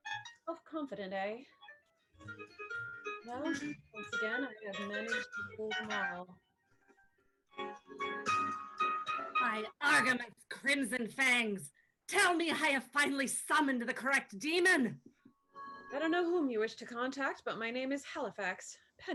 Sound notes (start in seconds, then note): 12.1 Irish accent